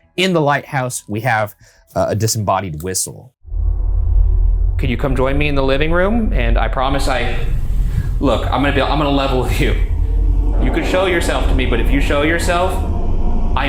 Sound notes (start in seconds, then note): 3.5 ominous ambient music; 7.3 mysterious voice groaning